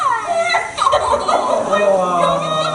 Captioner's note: laughs